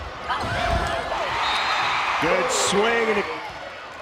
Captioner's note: crowd and players cheering